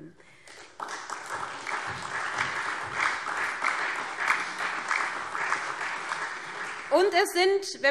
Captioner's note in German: Beifall SPD und Freie Demokraten